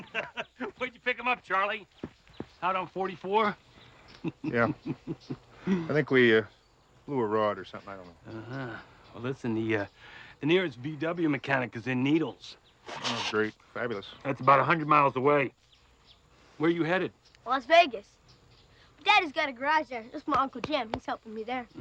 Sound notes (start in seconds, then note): 0.0 man laughing; 3.9 laughing